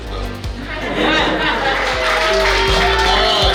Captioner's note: hahaha